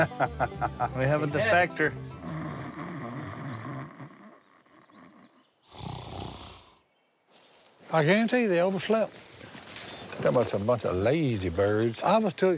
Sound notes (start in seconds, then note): 0.0 laughing; 2.2 snoring